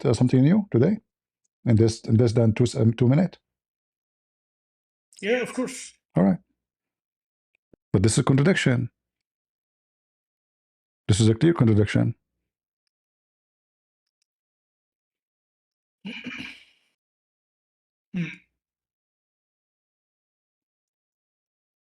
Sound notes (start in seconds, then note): 16.4 clears throat